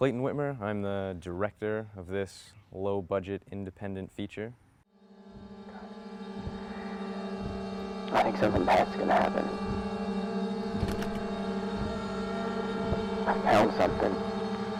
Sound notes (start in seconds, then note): 4.8 dramatic music; 7.6 voiceover